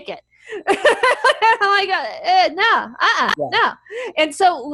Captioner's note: laughs